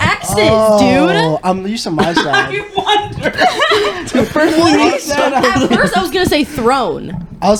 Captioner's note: laughing